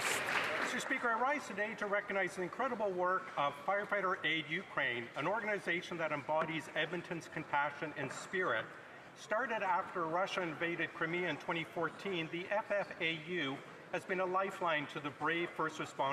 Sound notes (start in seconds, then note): 1.6 applause